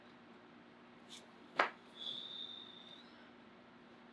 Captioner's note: blows air